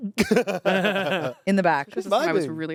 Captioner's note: everyone laughs